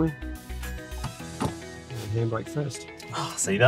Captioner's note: lever clunking